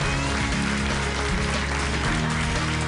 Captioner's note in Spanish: aplausos